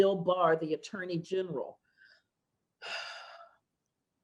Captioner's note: sighs